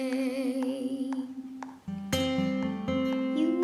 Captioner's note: metronome clicking